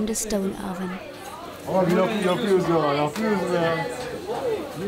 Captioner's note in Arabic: بالتركية